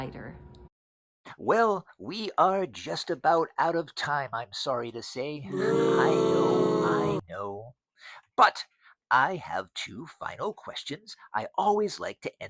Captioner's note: booing